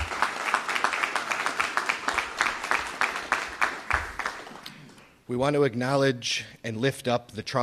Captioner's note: applause